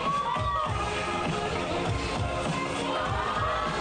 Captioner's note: crowd cheering